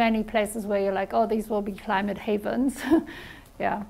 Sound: chuckles

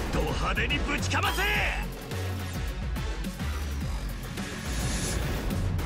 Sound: energizing music; Ichiban speaking in Japanese

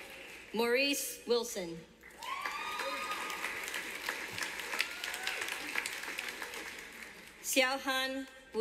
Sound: whistling and clapping from audience; cheers and clapping from audience

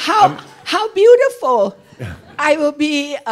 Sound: laughter

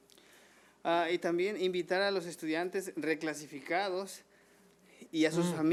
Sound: man speaking foreign language

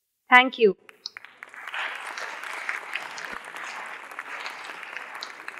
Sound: audience clapping

